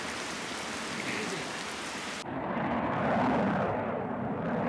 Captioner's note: plane engine roaring